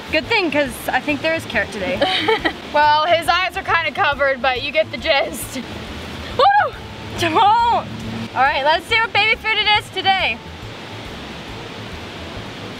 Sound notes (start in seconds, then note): 6.7 squeals